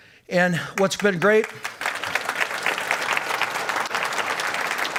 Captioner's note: applause